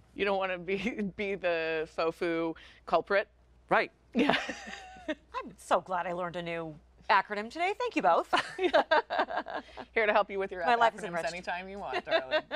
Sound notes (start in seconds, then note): 4.2 chuckling; 8.3 laughing